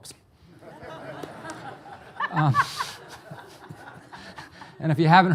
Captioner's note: audience laughing